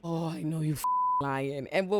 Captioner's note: beep